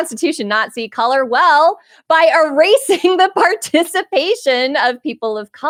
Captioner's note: chuckling